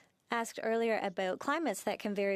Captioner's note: speaking French